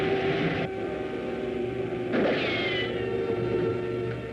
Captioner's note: gunshot, ricochet